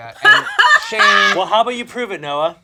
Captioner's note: laughs